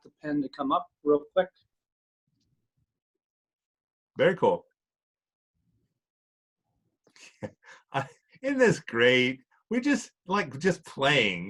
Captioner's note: chuckles